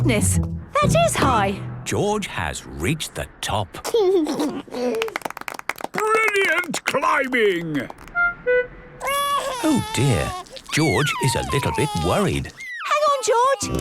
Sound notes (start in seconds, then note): 4.0 George giggles; 4.9 clapping; 9.0 crying